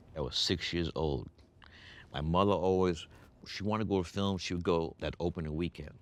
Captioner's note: none